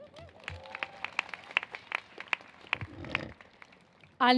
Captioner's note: applause